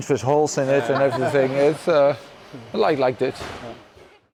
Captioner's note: quiet laughter